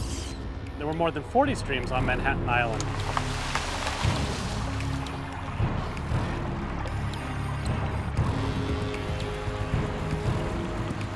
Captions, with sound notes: There were more than 40 streams on Manhattan Island. [water splashing] [gloomy music]